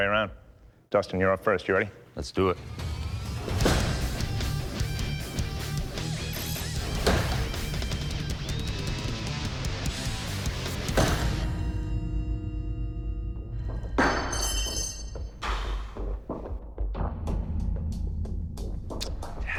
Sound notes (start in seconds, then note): 13.7 metal clangs; 14.7 sighs; 15.9 clicks tongue